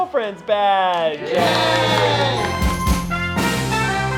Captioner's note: everyone cheering; band music